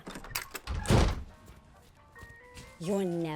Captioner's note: door opening, slamming shut